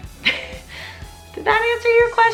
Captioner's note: laughing